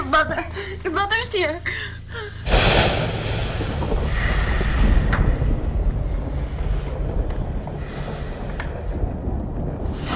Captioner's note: thunder & lightning